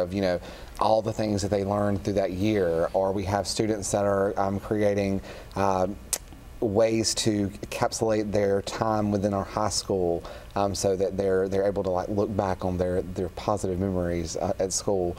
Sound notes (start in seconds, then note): none